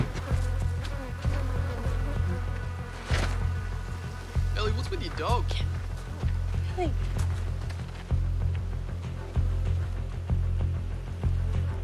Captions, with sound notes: (FLIES BUZZ) - Ellie, what's with your dog? - (WHISPERS) Kevin! Millie...